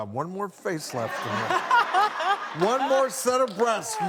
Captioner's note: laughing